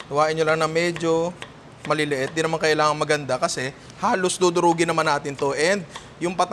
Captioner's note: none